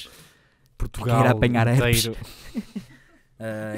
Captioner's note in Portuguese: risos